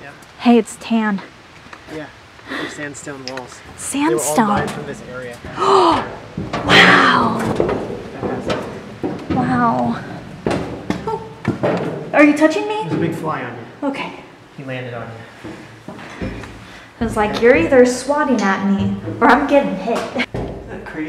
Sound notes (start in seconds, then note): 8.1 gasp